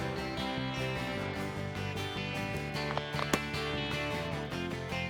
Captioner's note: multiple gunshots